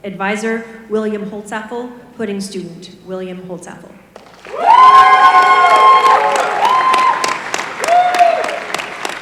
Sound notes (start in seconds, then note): 4.2 applause